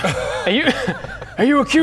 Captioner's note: laughs